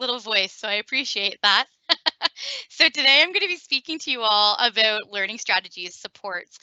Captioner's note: laughing